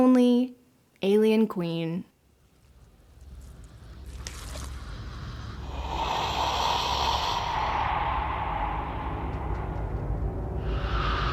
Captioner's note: hissing sound